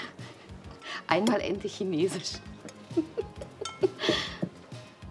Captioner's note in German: lacht